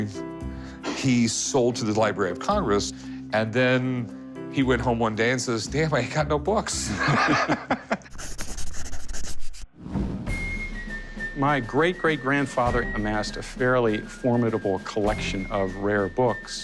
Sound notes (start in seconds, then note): 6.9 laughs